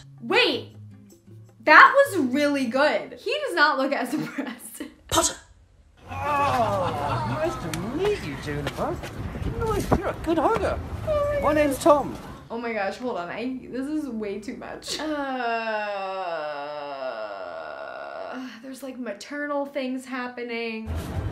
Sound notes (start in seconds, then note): 15.6 long groan